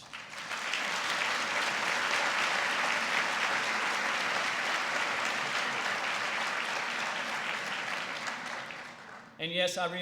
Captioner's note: applause